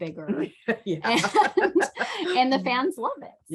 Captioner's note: both laugh